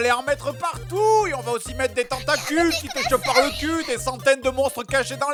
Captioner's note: yamete Kudasai noise